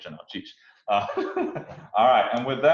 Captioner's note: giggles